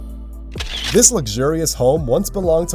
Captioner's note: camera shutters